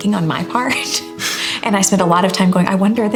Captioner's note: chuckling